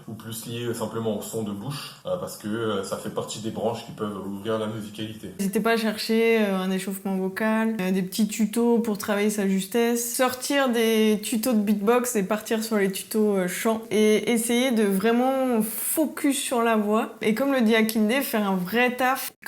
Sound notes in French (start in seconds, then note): none